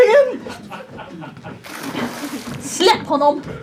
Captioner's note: laughter